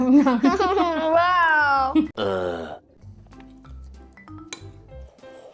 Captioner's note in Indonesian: tertawa